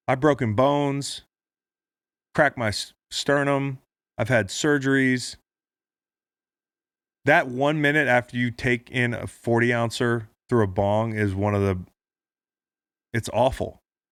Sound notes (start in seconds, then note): none